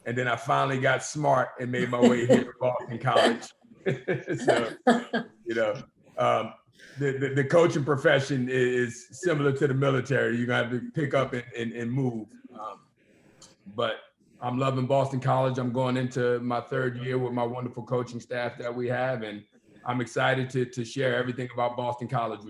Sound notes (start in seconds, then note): 3.8 all laughing